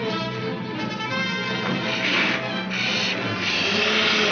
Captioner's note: car engine revs